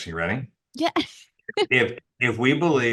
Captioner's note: laughs